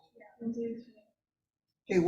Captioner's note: aides whispering